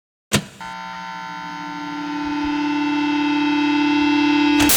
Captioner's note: audio equipment whirring